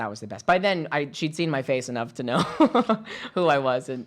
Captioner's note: laughing